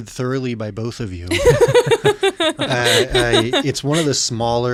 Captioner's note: laughing